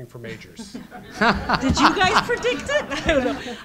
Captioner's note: crowd laughs loudly